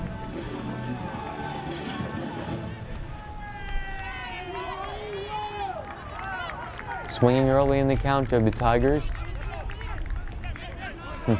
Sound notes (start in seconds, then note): 4.5 crowd cheering